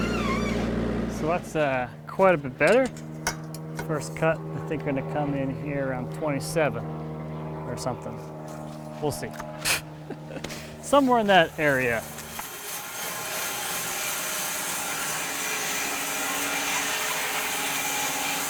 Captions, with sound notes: So that's quite a bit better. First cut we're going to come in here around 27 or something, we'll see. (laughs) Somewhere in that area. (saw whirs)